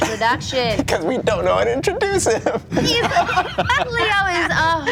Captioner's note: laughing